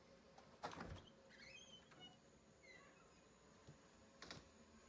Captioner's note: door squeaks